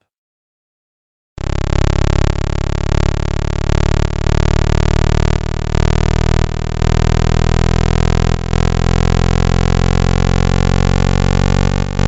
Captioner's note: Sonification: Huygens radar altimeter — surface approaching